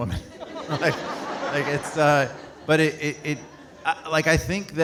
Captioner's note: audience laughing